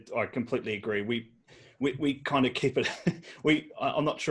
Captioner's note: laughs